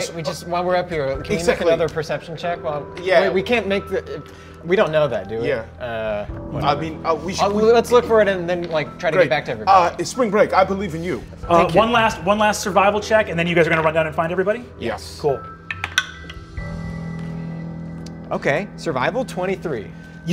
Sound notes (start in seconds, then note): 15.6 dice rolling